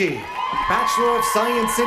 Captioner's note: cheers and applause